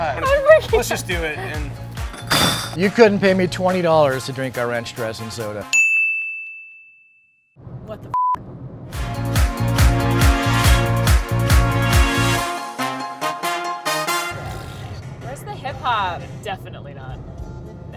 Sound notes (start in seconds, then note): 2.3 bottles rattle; 5.7 bell dings